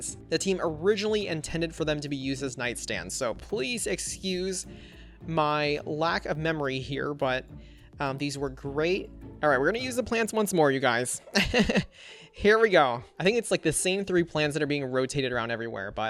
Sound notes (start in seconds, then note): 11.3 laughs